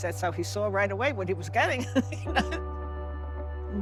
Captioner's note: laughs